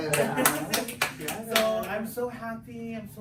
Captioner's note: group clapping